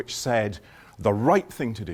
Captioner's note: none